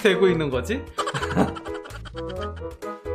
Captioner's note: laughs